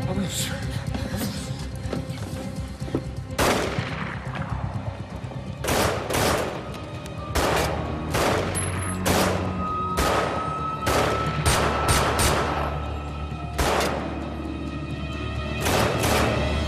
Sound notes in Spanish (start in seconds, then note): 3.4 Disparos; 7.7 Disparos